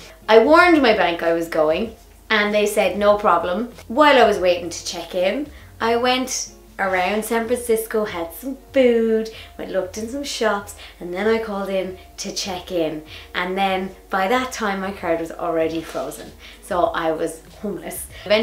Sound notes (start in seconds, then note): none